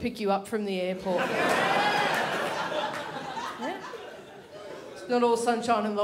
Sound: crowd laughs

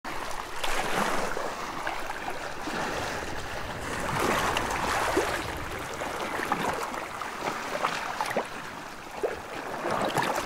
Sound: relaxing Ocean Waves

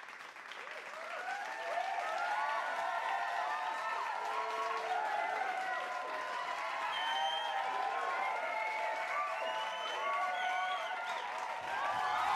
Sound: crowd cheering and clapping

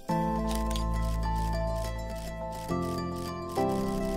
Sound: camera clicking

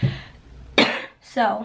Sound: coughs

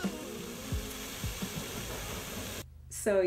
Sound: water fountain

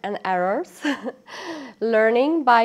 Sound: interviewee giggling

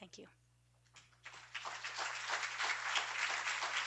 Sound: applause

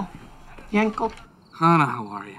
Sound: Hannah speaks foreign language

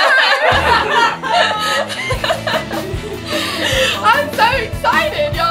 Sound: laughter

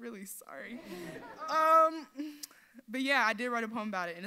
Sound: audience laughs

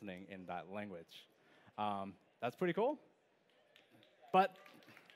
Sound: applause

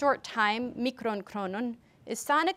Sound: speaker speaks foreign language

